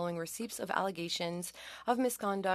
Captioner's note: speaking French